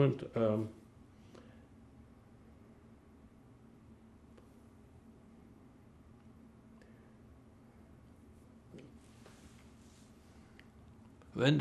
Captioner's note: pauses 10 seconds